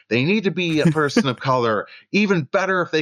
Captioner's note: laughter